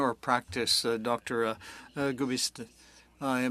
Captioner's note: speaking French